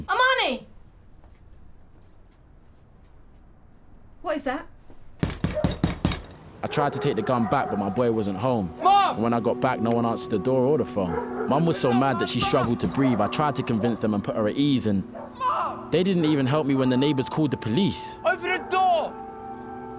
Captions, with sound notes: - Amani! What is that? [Banging on the door] - I tried to take the gun back, but my boy wasn't home. - Mum! - And when I got back. No one answered the door or the phone Mum was so mad that she struggled to breathe. I tried to convince them and put her at ease and... - Mum! - They didn't even help me when the neighbors called the police - Open the door!